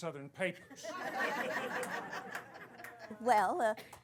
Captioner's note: laughter